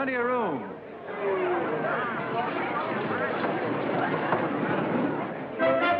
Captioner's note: chatter